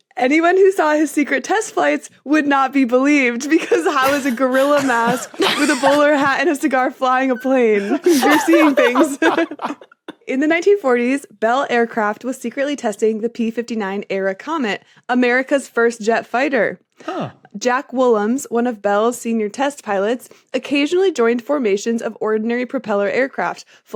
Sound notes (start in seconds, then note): 7.1 guessers laughing